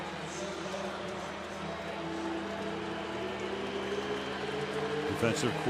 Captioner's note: pa announcement